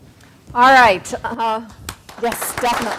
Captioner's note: applause